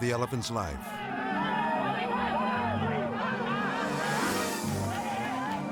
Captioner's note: villagers shouting; villager clapping